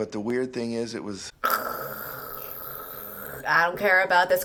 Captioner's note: 𝘩𝘦𝘢𝘷𝘺 𝘴𝘯𝘰𝘳𝘪𝘯𝘨